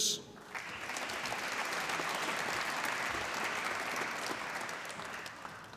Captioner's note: applause